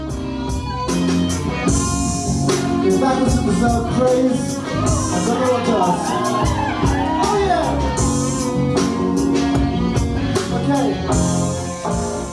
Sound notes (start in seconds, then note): 4.6 audience cheering